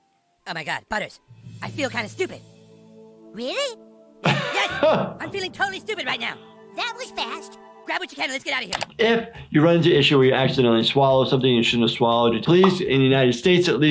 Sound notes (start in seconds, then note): 4.2 laughing